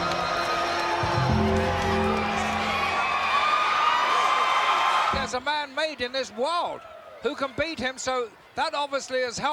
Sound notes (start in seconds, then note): 2.8 crowd cheering